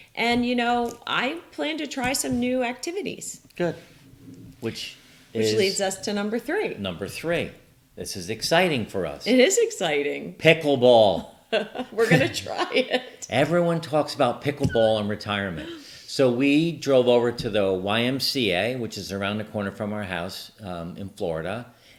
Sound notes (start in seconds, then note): 11.6 both chuckling